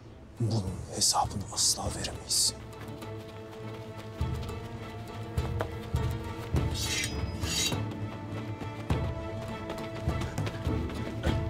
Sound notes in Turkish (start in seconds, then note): 6.8 Kılıç sesleri; 8.7 Müzik - Gerilim